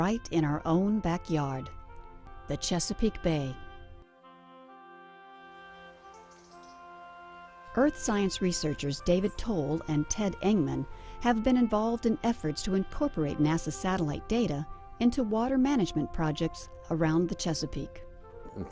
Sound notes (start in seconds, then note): 5.5 birds chirping